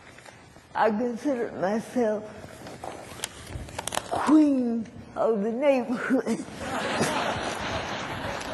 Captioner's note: laughter